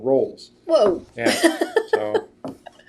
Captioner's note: laughs